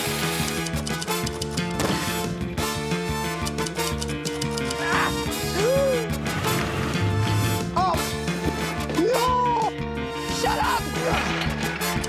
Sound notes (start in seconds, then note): 0.2 typewriter clacks; 4.4 gasps; 11.9 tings